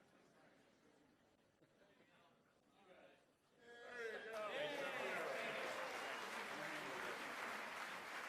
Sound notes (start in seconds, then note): 4.0 cheering